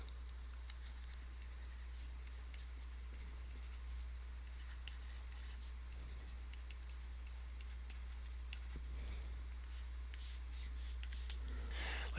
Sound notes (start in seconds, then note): 1.1 writing